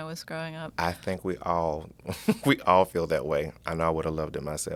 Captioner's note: laughs